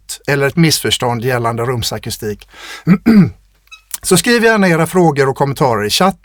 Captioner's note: clears throat